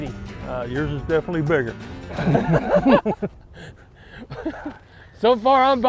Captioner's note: both chuckling